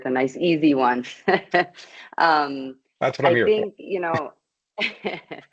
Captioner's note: chuckles